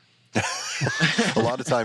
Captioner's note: laughs